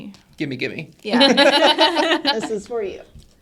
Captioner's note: all laugh